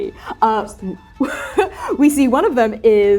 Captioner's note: laughing